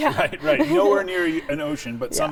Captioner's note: chuckles